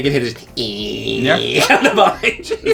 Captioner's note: buzzing